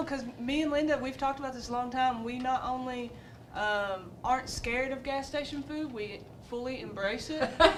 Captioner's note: laughter